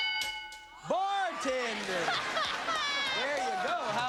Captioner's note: laughs